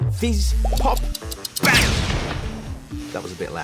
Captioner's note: bang!